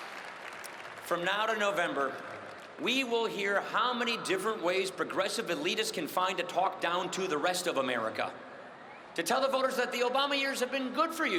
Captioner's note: cheering and applause